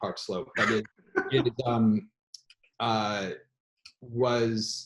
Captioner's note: laughs